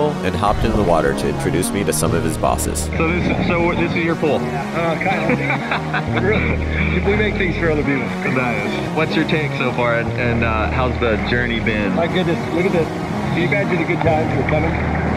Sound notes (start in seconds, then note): 4.8 laughs